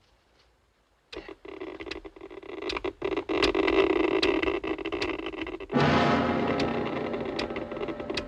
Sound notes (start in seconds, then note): 0.9 machine crackling; 5.7 tense music